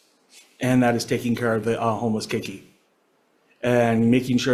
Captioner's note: speaks Hawaiian